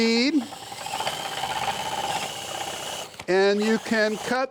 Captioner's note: machine whirring